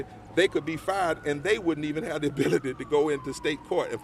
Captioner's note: laughs